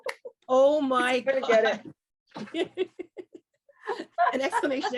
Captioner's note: both laugh